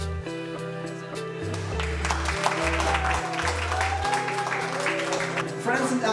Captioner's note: clapping